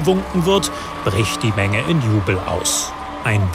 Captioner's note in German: Jubel